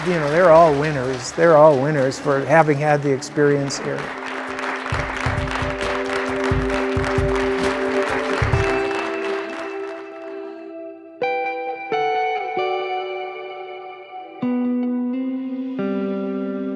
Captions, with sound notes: You know, they're all winners. They're all winners for having had the experience here. [Applause continues] [Slow guitar music]